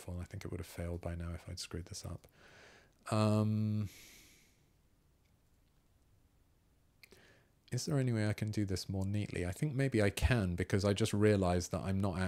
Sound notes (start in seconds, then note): 2.8 silence